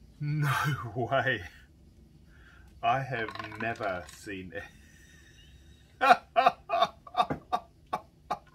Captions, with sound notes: No way. I have never seen (laughs)